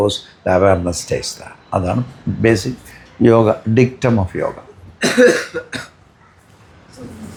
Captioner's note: cough